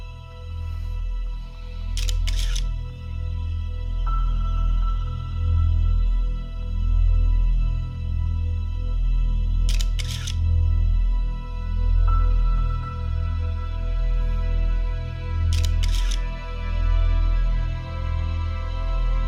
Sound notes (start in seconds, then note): 2.0 camera shutter clicks; 9.7 camera shutter clicks; 15.5 camera shutter clicks